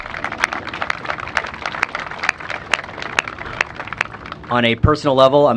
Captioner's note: applause